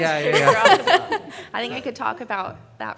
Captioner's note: panelists laughing